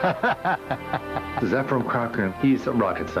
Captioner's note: laughs